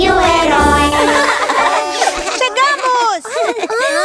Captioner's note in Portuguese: Risos